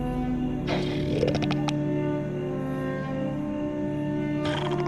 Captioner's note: alien growls